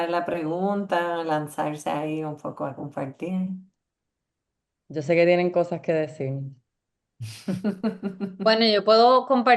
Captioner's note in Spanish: risas